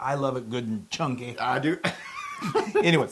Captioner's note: laugh